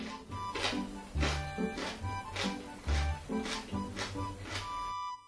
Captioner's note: crunchy sound